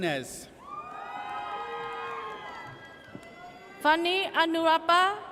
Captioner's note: audience cheers